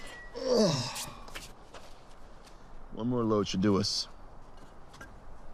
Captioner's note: groans